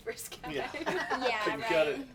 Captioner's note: all laughing